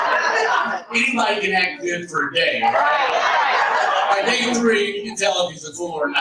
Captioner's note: audience laughs